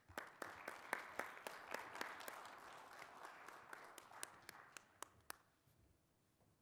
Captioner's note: applause